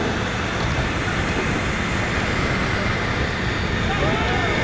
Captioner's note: engines whooshing